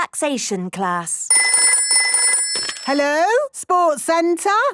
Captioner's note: phone ringing